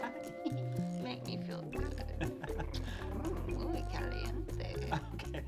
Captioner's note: chuckles